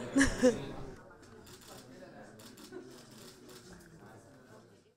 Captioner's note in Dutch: klikkende fotocamera's